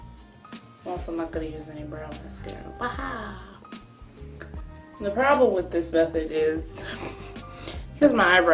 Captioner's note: chortles